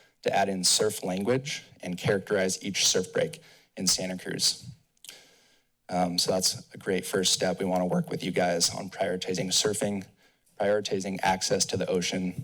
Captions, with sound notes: to add in surf language and characterized each surf break in Santa Cruz. [tongue clicks] uhm... So that's a great first step. We wanna work with you guys on prioritizing surfing, prioritizing access to the ocean.